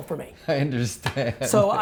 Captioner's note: laughing